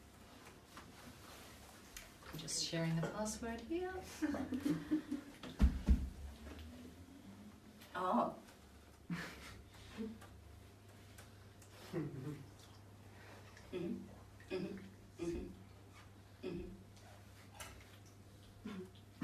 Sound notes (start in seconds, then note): 4.5 group laughing